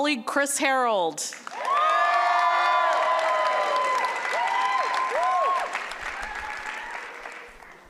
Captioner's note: applause